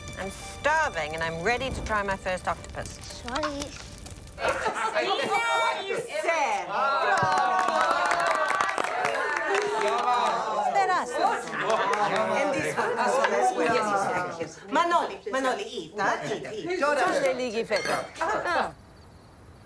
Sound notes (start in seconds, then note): 4.4 laughing; 7.0 applause; 8.5 cheering